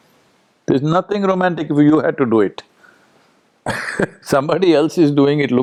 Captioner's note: laughs